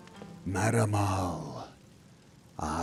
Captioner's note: hushed